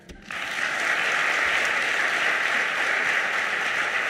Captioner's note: audience applauding